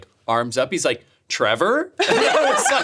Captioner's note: laughing